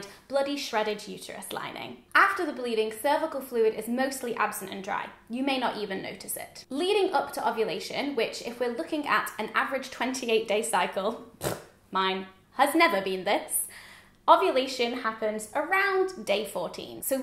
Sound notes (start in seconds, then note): 11.3 blowing a raspberry